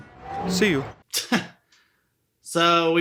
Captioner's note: laughs